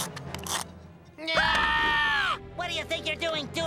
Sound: screaming

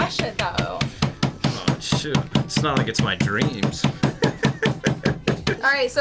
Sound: laughs

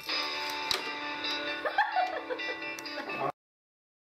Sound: laughter

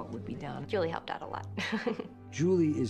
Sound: chuckles

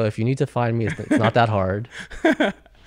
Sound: laughs

